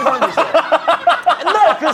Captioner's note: laughing